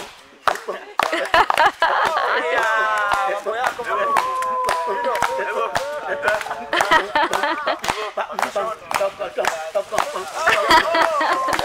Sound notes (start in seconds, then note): 0.6 laughs; 0.9 applause; 4.8 laughs; 6.2 applause